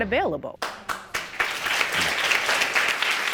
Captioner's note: audience applauding